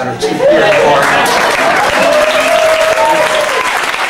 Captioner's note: applause